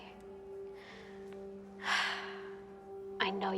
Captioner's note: exhales